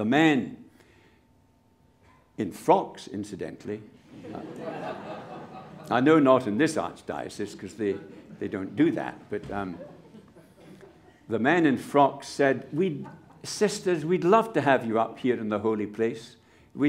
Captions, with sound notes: the men -in frocks incidentally- [Laughter] I know not in this Archdiocese, because they, they don't do that. But, the men in frocks said, "We'd, sisters, we'd love to have your up here in the holy place."